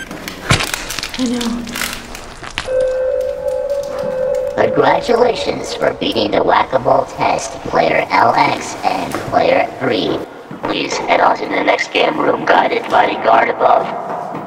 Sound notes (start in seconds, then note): 2.6 intercom Signals; 5.4 intercom